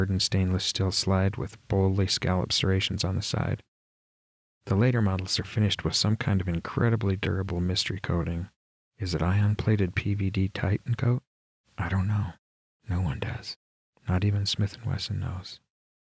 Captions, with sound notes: hardened stainless steel slide with boldly scalloped serrations on the sides. The later models are finished with some-kind of incredibly durable mystery coating.. Is it ion plated PVD titankote?? (*Whisper voice) "I don't know," No-One does.. not even Smith and Wesson knows.